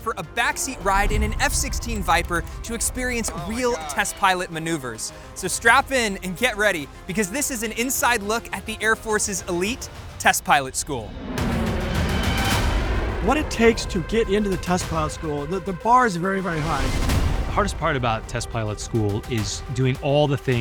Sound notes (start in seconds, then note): 10.2 jet aircraft whooshing